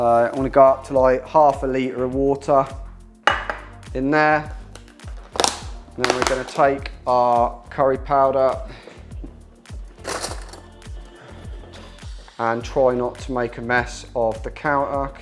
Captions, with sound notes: So I'm gonna go up to, like, half a liter of water in there. And then we're gonna take our curry powder (cutlery clangs) and try not to make a mess of the counter,